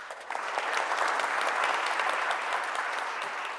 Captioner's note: applause